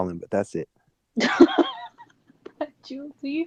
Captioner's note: laughing